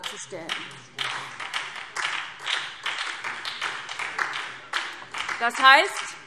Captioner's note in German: Beifall SPD